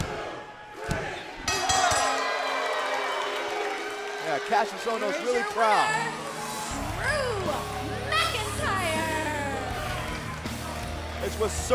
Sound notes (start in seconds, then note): 3.1 bell ringing; 4.9 crowd cheering